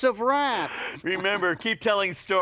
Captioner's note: laughing